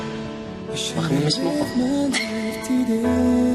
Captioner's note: chuckles